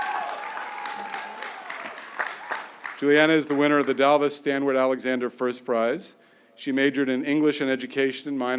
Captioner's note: cheering